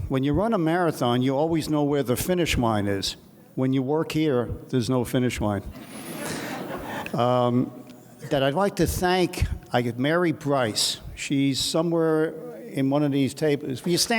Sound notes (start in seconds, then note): 6.0 audience laughs